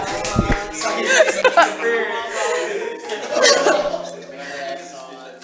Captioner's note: laughter, indistinct chatter